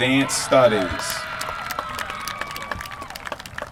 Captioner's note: applause